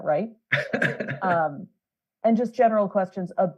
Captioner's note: laughs